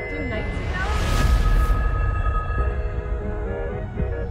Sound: atmosphere whooshing; upbeat jazz music

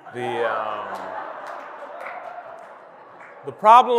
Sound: audience laughing

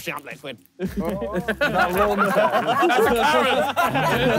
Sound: all laughing

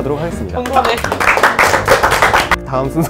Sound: applause

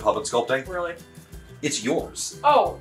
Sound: teasing; indignantly

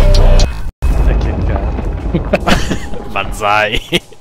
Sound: laughing

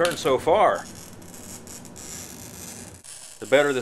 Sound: glass screeching

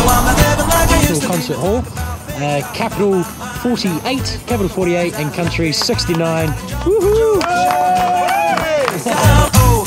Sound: cheer from all

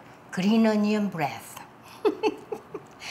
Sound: laughs

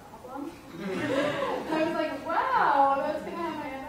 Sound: audience laughter

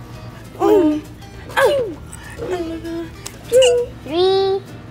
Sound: humming

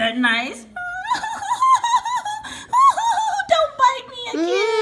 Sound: cries

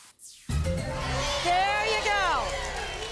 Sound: audience applause

